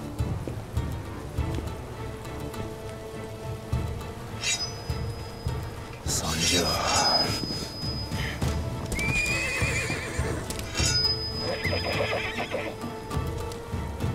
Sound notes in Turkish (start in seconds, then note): 4.4 Kılıç sesi; 8.9 At kişneme sesi